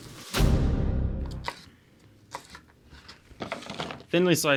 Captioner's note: dramatic thud